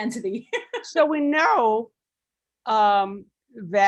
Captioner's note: laughing